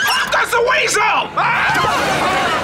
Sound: screaming

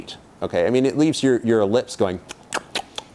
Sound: lip smacking

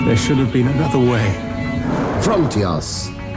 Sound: Malus roars

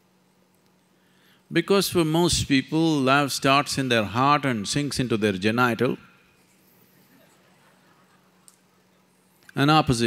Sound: few laughs

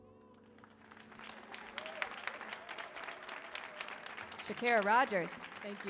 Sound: audience cheers

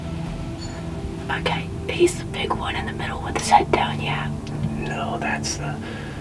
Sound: whispering

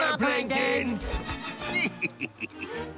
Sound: chuckles

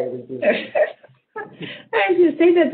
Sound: laughs

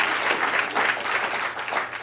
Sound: applause

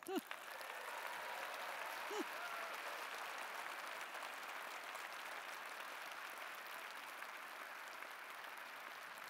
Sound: applause

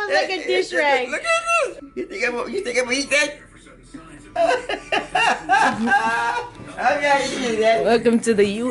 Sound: laughter

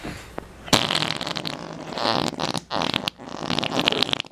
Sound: blowing sounds

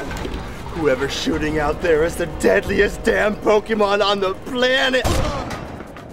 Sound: gunshot

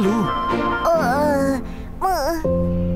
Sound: Wilk groans; gentle music

